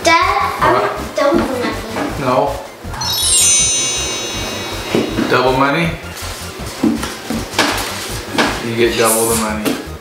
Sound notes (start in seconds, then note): 2.9 sparkle sound effect